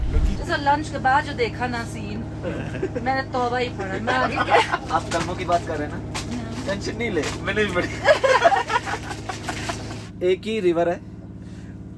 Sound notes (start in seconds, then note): 8.4 laughs